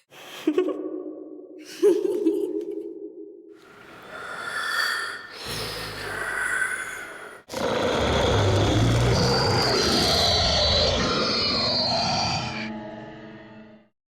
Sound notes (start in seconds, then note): 1.6 giggling; 3.6 heavy, raspy breathing